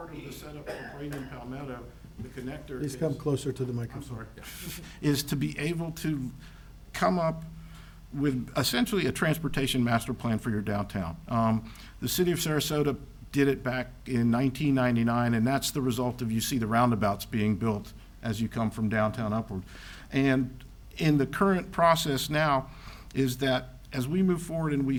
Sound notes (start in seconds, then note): 5.1 giggles